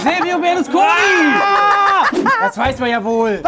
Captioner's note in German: Schreie, Lachen